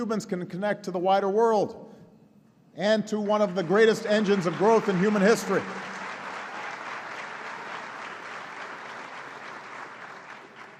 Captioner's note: applause